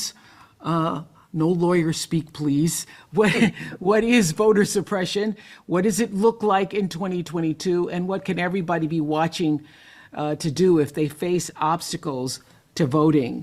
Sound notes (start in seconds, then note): 1.9 laughs